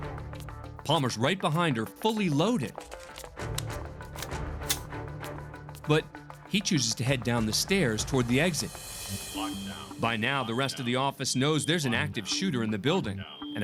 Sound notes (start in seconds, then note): 4.0 gun cocks; 10.2 alarm